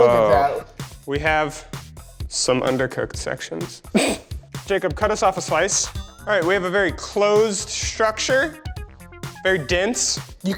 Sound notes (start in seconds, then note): 4.0 scoffs